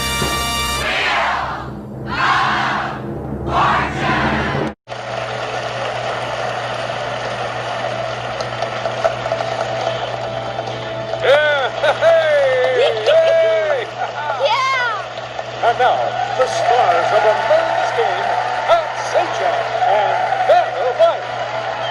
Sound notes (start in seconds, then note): 5.8 audience cheering; 11.1 players cheering